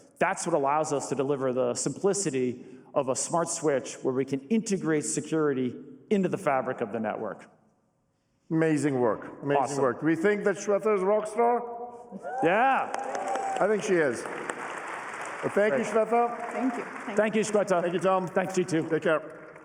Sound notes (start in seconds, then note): 14.4 applause